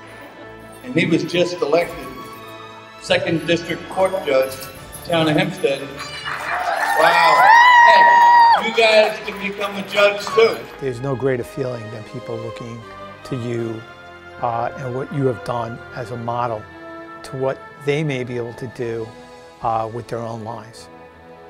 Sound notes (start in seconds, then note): 5.9 cheers & Applause